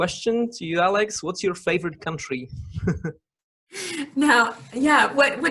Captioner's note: laughing